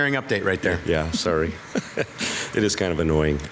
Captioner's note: chuckles